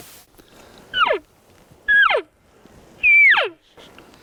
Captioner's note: elk bugle